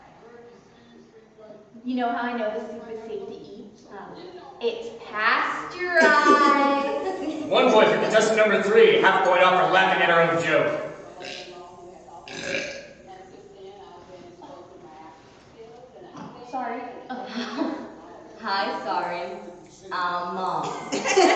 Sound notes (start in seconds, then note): 5.9 all laugh; 12.2 loud burp; 20.6 laughter